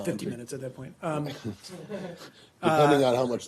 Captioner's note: laughter